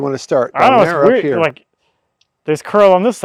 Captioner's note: overlapping chatter